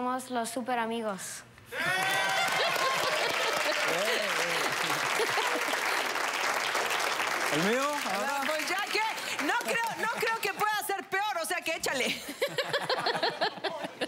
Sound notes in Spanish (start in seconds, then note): 2.2 Risas; 4.4 Aplausos; 4.4 Exclamaciones